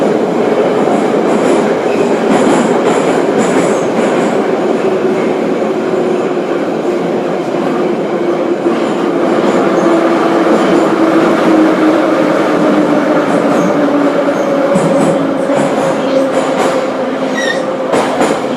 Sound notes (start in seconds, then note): 9.4 braking - arrival at the station